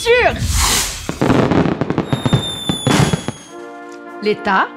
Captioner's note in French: firework